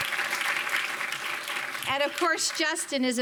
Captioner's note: audience applauding